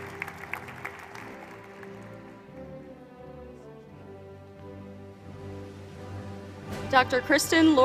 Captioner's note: applause